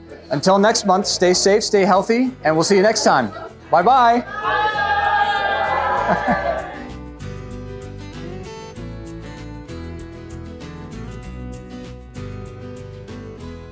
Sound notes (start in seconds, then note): 5.9 chuckling; 6.2 lively music